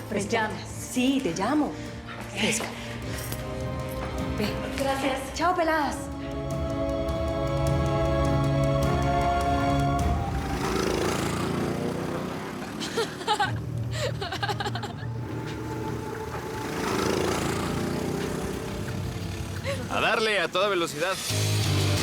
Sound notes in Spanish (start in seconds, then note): 10.7 ruido del motor del go kart; 15.7 risas